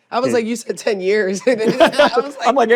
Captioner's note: laughs